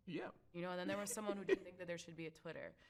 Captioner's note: laughs